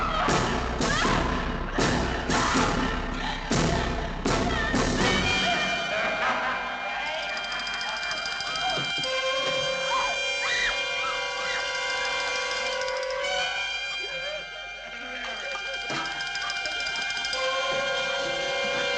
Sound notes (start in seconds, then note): 5.6 men laughing; 13.8 men laughing and chattering